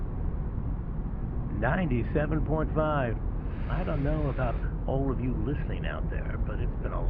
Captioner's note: radio